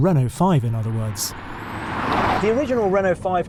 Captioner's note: car roaring